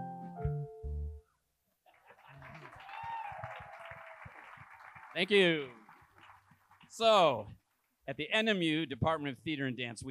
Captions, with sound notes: (attendees applauding) - Thank you. So at the NMU Department of Theatre and Dance,